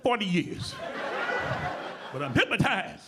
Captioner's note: audience laughing